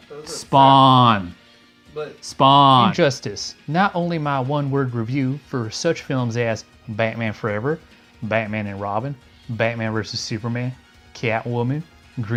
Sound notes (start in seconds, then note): 2.6 agrees off screen